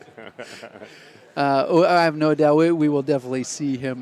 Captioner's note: laughter